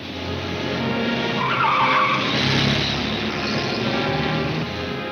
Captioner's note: car wheels screech